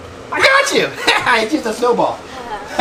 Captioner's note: laughing